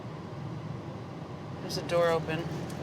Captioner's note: car tires hum